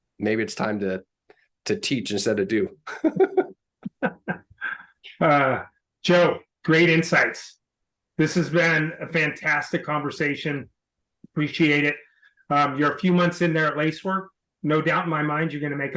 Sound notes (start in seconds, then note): 2.8 chuckling; 2.8 laughing